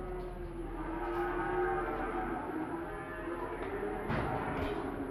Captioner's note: cows mooing